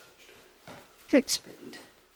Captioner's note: cameraman whispering